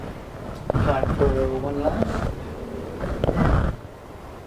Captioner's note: voiceover